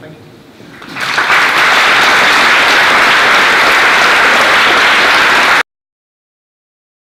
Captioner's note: applause